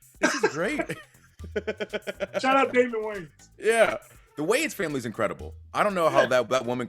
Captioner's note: laugh